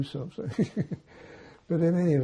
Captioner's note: laughing